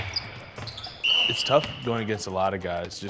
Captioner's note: chattering and squeaking; whistling